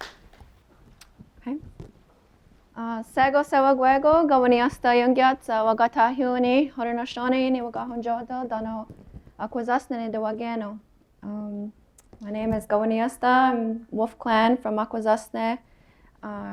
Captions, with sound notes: [SPEAKING HER LANGUAGE] My name is Kawenniiosta. I’m Wolf Clan from Akwesasne.